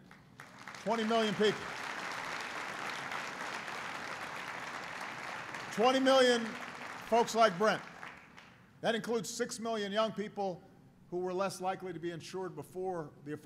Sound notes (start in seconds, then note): 2.9 applause